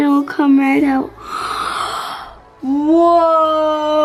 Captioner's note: gasps